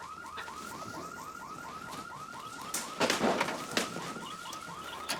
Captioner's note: wings fluttering